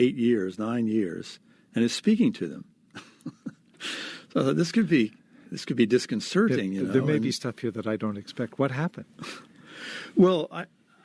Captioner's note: chuckles